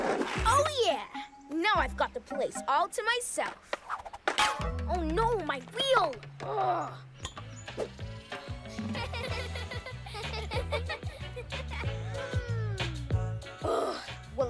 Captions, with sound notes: Oh, yeah! Now I've got the place all to myself. Oh, no! My wheel. Grr! (Laughter) - Mmm! - Ugh!